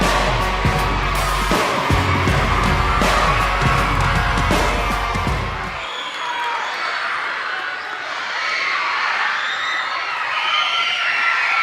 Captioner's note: kids cheering